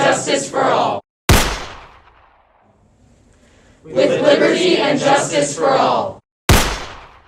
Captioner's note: gunshot